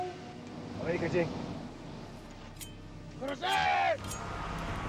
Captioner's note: speaking foreign language; shouting in foreign language